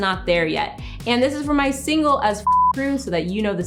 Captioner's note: beep